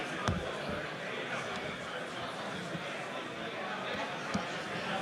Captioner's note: indistinct chatter